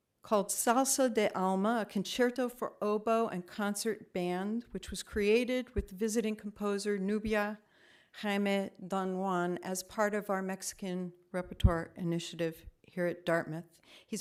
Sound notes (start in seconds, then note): none